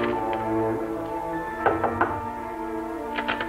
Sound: knock

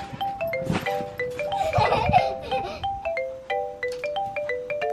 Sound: laughs

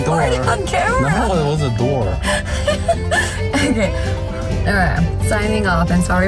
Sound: laughs

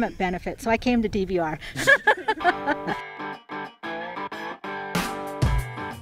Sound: laughing

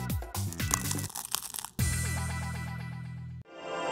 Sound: bread crunches

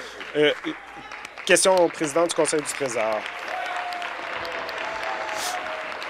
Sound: applause

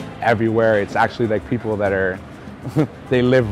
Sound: laugh

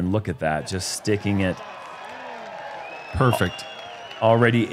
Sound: cheering

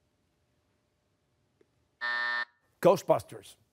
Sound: buzzer

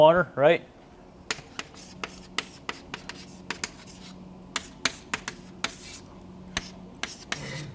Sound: chalkboard writing

